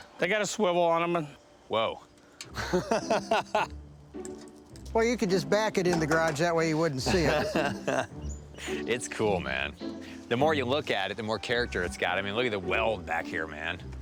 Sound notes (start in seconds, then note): 2.5 laughter